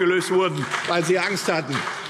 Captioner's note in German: Beifall